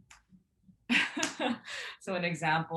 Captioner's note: chuckles